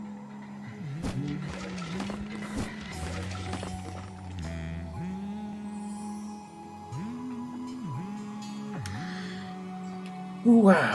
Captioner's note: hums along